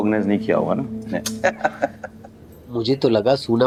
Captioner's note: laughing